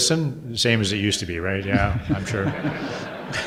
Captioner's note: audience laughter